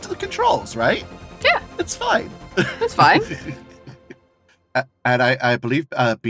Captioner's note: chuckles